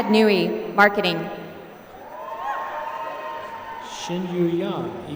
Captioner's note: applause